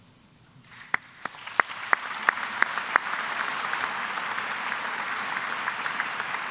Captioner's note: applause